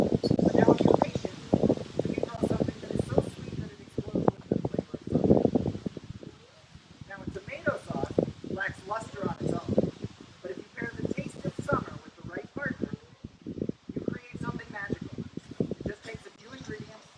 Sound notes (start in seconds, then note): none